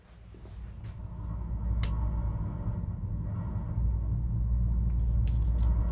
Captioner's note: footsteps tapping; machine rattling faintly